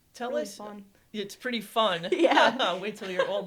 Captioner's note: laughs